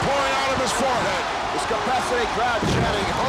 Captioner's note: audience chanting